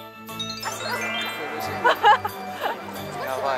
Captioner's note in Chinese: 哈哈